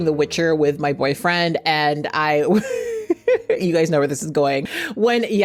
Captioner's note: laughs